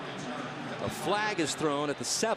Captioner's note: pa announcement